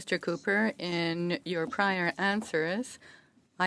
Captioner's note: speaking French